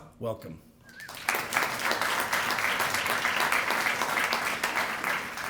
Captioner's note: applause